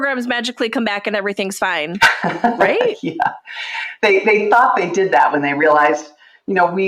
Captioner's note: chuckles